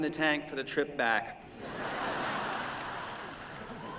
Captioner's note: laughter